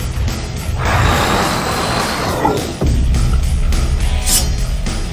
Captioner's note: tense music; creature roaring